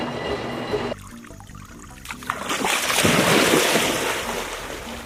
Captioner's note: water splashing